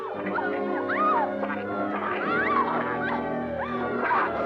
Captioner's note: Pilar yelling